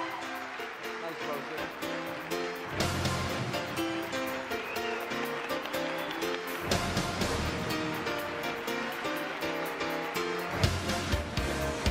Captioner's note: cheering and Applause